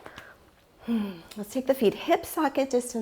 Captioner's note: sighs